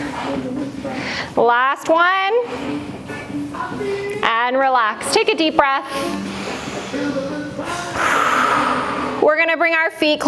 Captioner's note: breath